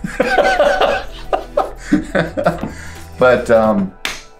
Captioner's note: laughs